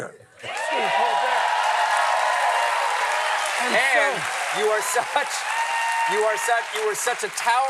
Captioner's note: cheers and applause